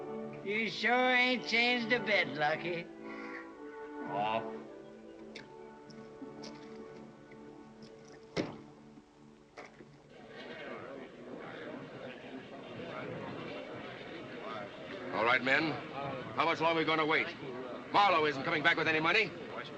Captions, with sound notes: He sure ain't changed a bit, Lucky. [ LUCKY MOANS ] [ MEN CHATTERING ] All right, men, how much long are we gonna wait? Marlow isn't coming back with any money,